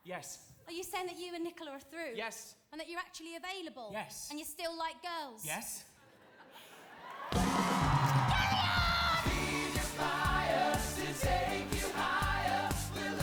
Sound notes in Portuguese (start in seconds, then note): 6.1 audience laughing; 7.0 audience cheering